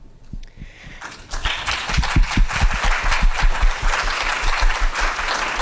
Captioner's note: audience clapping